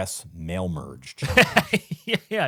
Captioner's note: laughing